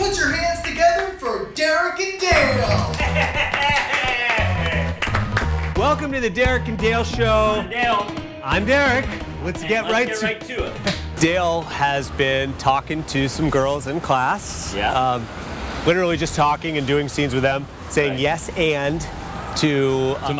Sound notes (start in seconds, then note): 2.3 scattered clapping; 2.5 laughing